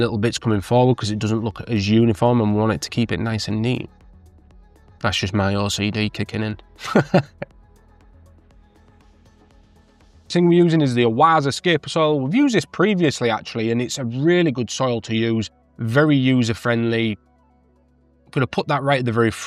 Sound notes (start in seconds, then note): 6.8 laughing